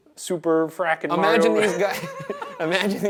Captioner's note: Shane and Ryan laughing